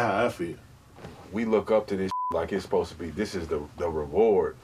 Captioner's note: beep